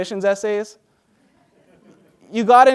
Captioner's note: laughter